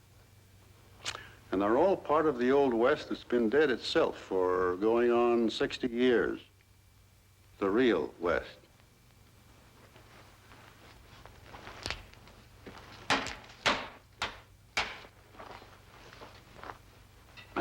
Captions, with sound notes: And they're all part of the Old West that's been dead itself for going on 60 years, the Real West. (shoes shuffle in dirt) (stick tapping) (stick knocking) (stick knocking) (stick knocking) (dirt scuffles)